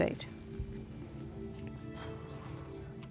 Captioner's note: whispering